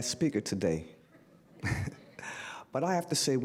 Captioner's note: laugh